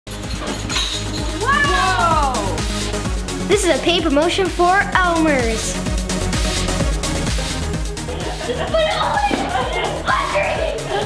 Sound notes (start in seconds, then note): 5.9 upbeat techno music; 8.5 excitedly shouting